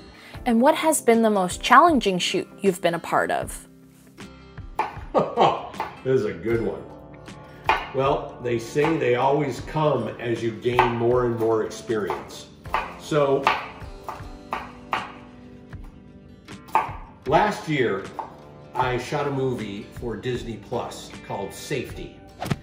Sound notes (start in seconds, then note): 5.1 chuckles; 12.6 chopping noises